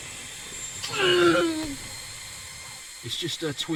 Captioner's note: groans